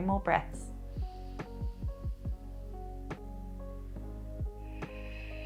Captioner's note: exhales